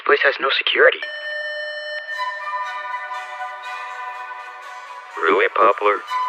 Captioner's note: intercom beeps